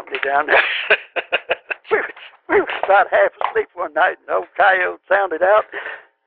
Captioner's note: laughter